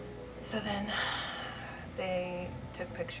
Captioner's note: deep sigh